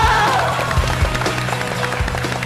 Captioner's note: applause